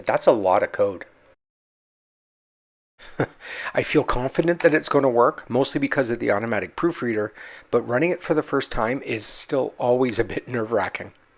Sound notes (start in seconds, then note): 3.0 chuckles